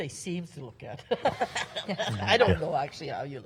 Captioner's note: laughs